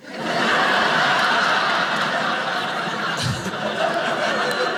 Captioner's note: audience laughing